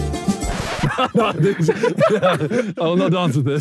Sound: Sidemen laughing; record scratching

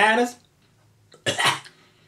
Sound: cough

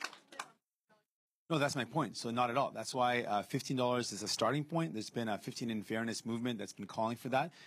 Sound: cheering and Applause

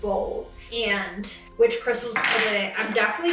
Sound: quartz clinks

